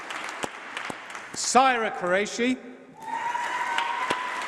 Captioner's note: applause